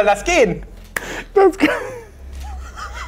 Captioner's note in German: Lachen